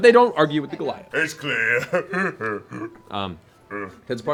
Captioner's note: laughs